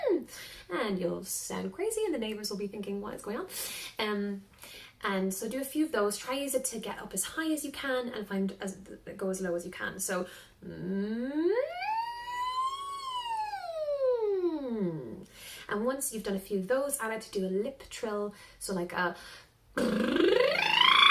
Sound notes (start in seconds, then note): 10.8 humming; 19.8 trilling